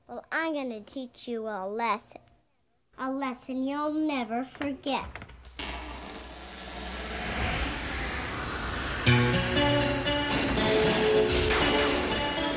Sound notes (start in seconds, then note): 5.0 door squeaking